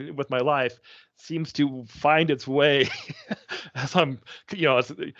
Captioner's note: chuckling